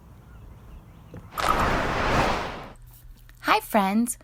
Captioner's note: whooshing